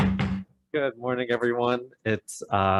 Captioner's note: gavel bangs